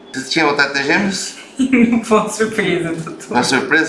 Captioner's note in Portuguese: risos